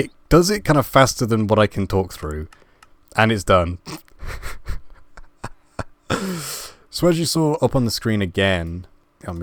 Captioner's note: laugh